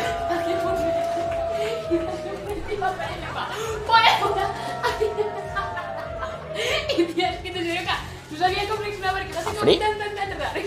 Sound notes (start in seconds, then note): 0.1 girl laughs; 4.6 laughs